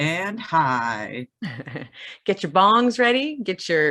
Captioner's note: laughs